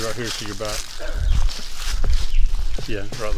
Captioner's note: birds chirping; rustling leaves